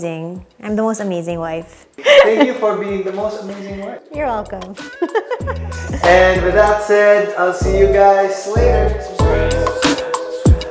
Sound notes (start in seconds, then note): 4.8 laughs